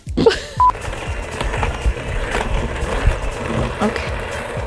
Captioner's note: blender whirring